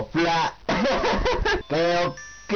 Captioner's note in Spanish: risa